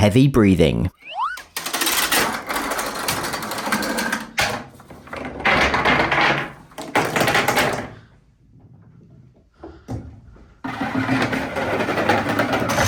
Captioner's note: dominoes toppling